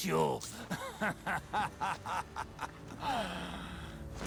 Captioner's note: laughing